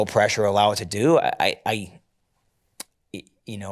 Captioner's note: clicks tongue